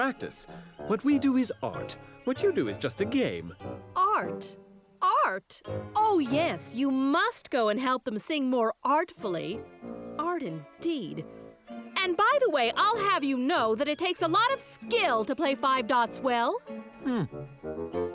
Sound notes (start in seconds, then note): 9.4 muttering to herself